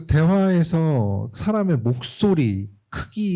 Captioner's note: speaking korean